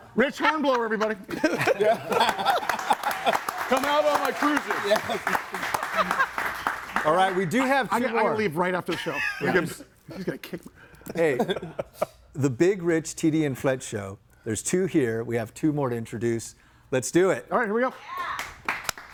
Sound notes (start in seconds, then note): 4.9 audience applauds; 5.8 laughs; 18.4 audience applauds